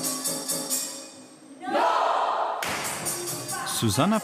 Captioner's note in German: Musik wird unterbrochen, Gruppenschrei